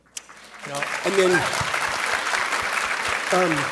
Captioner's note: audience clapping